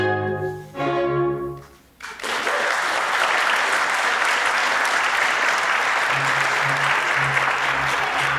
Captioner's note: applause